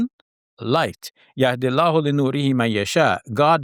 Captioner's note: speaks in Arabic